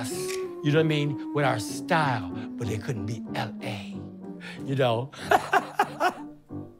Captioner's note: chuckles